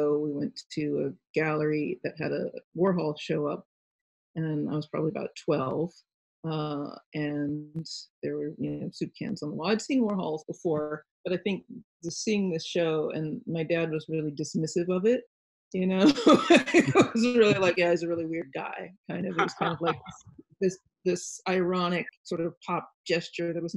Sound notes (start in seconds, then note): 16.1 laughs